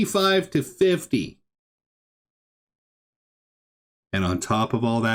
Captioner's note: stunned silence